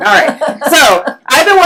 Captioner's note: laughs